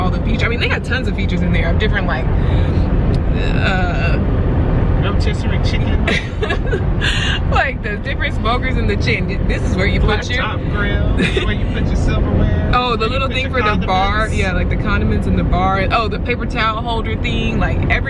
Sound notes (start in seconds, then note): 6.0 laughs